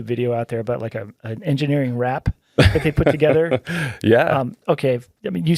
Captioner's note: laughing